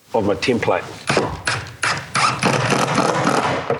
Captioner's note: electric drill sound